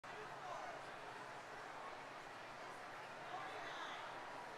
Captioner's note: people chattering